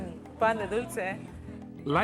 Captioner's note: speaks in foreign language